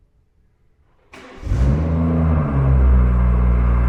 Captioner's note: car starts